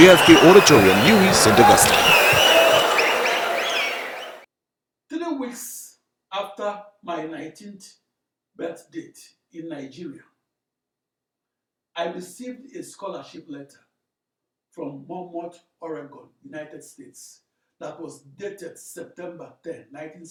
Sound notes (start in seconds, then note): 2.9 wild applause and cheering for 22 seconds